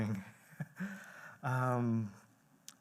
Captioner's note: chuckles